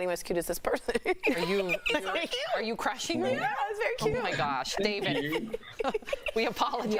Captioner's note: laughter